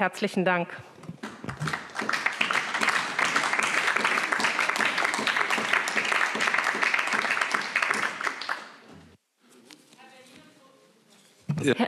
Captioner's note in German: Beifall SPD, CDU und BÜNDNIS 90/DIE GRÜNEN